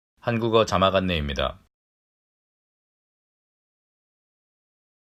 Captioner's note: man speaking foreign language